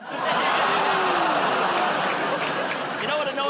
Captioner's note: audience groans